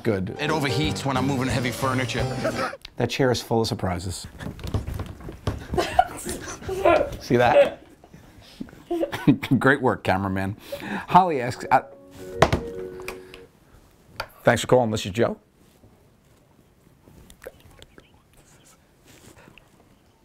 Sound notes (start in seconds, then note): 5.7 man laughs; 8.8 chuckles; 11.6 phone rings